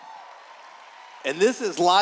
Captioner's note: cheers